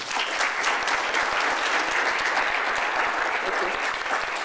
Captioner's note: applause